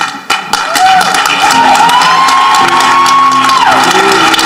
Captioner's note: audience clapping; uplifting music